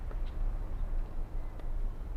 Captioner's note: footsteps approaching